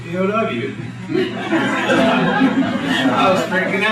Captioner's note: laughter